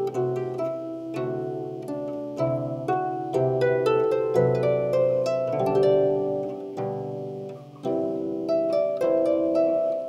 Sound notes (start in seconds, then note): none